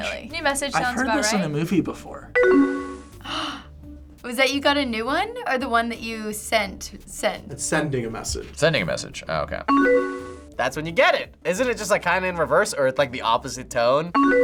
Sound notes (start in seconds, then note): 2.4 tones chiming; 3.2 gasps; 9.7 tones chiming; 14.1 tones chiming